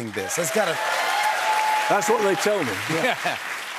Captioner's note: cheers and applause